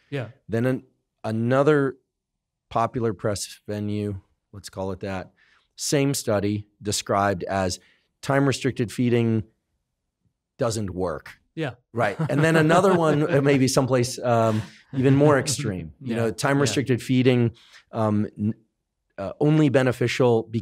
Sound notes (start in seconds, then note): 12.0 chuckles